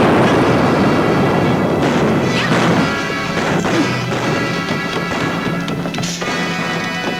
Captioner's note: safe booms; guns bang; exciting music